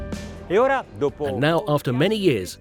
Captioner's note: speaking Italian